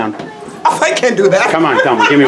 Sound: laughs

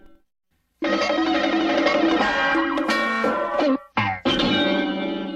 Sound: cartoon sounds continuing still

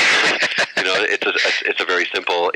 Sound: laughter

